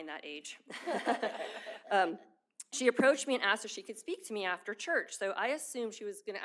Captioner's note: laughter